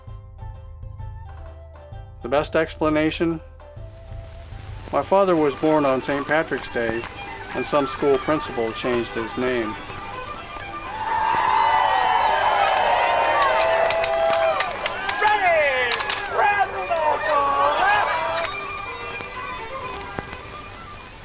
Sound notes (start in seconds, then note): 10.5 irish music playing; 10.8 people laughing and shouting; 17.6 irish music playing